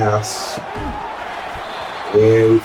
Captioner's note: crowd Noises